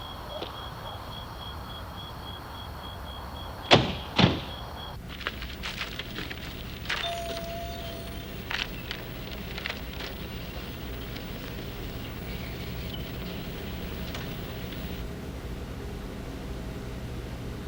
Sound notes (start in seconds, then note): 6.9 bell